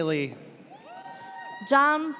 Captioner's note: audience cheers